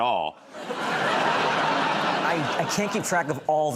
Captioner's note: laughter